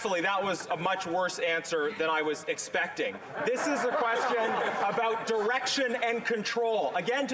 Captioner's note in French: voix de l'interprète